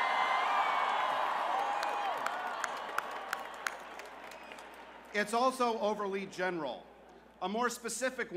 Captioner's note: cheers